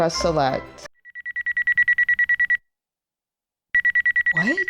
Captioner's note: beeping ringtone plays